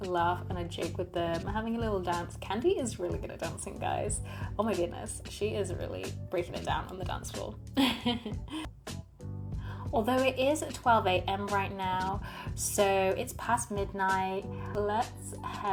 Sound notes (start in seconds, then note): 7.8 laughs